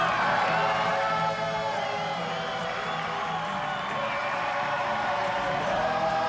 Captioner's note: loud cheering and music